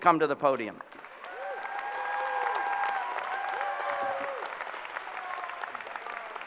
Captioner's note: applause